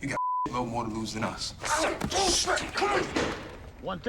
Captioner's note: yelling; door opens